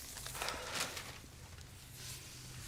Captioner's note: exhales